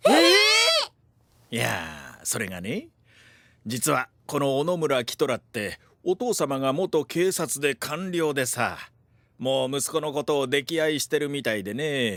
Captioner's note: sighs